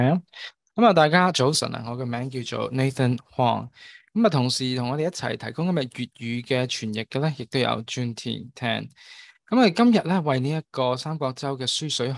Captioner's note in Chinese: 廣東話